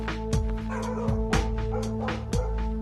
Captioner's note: dog barking